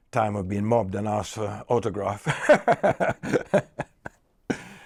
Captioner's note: laughs